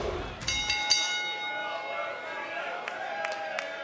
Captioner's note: bell dings; crowd chatters